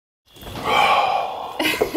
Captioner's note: sighs; laughs